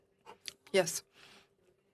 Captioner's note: speaking FRENCH